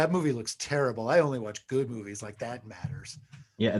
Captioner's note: laughs